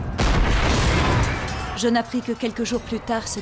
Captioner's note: cannon blasting